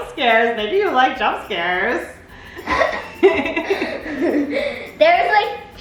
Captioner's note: both laughs